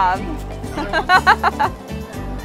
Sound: laughter

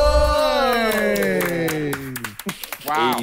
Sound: clapping

